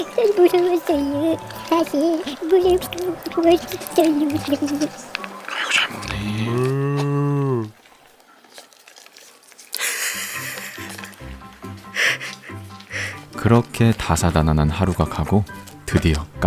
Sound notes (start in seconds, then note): 9.7 laughing